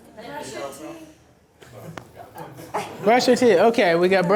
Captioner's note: voiceover